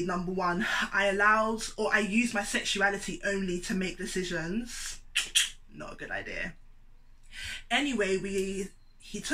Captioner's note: click